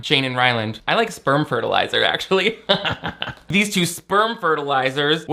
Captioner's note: laughs